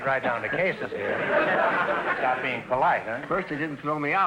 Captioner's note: audience laughter